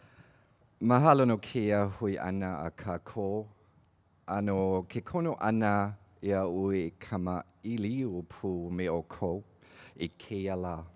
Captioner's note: speaking olelo Hawaii